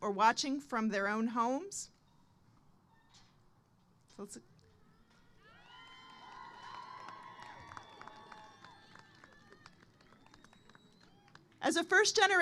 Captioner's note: applause